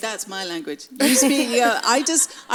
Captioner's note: laughs